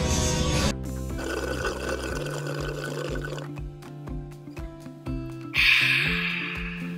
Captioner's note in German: schlürfen